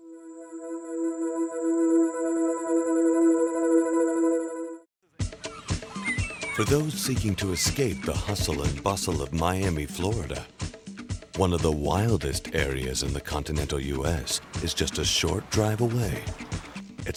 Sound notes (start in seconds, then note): 0.1 eerie suspenseful music; 5.2 upbeat music; 5.4 seagulls crying